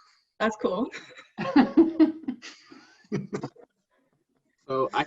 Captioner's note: laughter